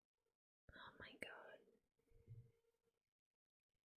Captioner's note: whispers